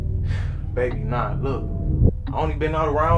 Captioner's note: sighs